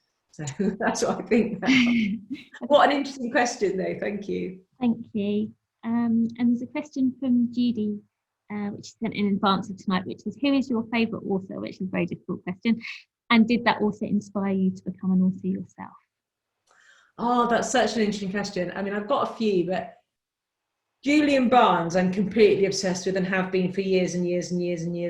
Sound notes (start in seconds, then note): 4.8 laughs